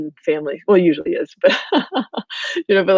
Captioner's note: laughs